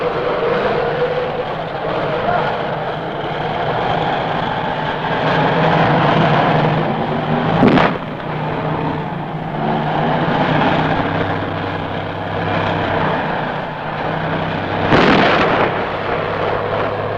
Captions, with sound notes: - All right, get into position, we're goin' in. - Right, good luck, sir. (tank engine roaring) (explosions booming)